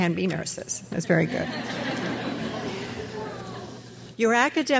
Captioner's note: crowd laughs